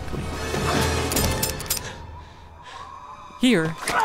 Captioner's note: empty gun firing